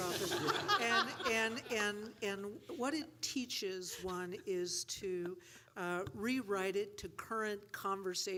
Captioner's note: laughter